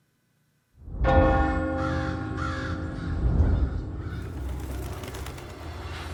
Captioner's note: bird calls; clock chimes; wings flutter